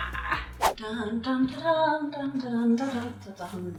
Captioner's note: humming